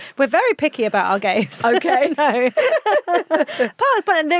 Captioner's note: both laughing